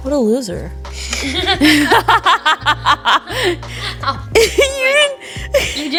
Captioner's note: laughing